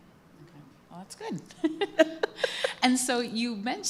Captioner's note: laughter